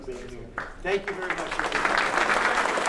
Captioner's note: applause